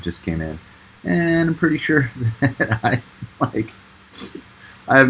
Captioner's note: chuckling